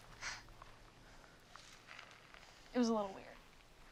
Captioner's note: Dylan sighs